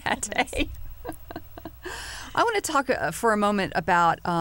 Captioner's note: laughter